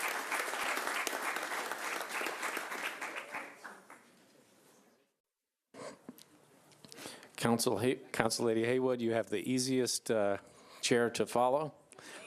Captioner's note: applause